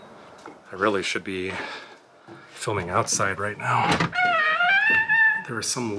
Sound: creaking door

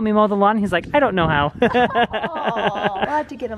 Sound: laughs

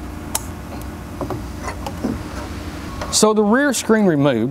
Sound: plug snaps

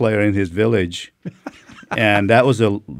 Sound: laughing

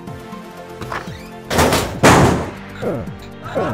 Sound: door Breaks off

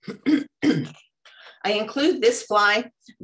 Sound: clears throat

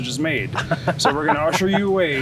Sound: laughs

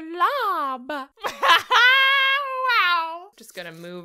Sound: laughs

